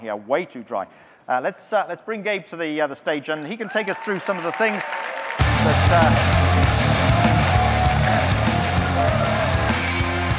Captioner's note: audience cheering, music